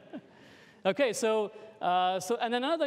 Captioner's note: laughter